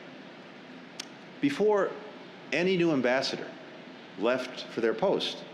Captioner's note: none